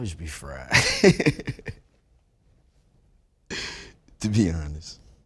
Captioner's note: laughs